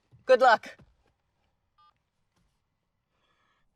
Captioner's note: phone beeps